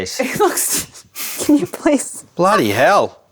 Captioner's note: laughing